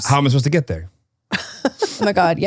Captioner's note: laughs